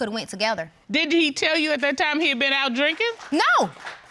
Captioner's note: audience applauds